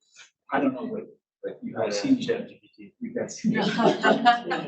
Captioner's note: laughs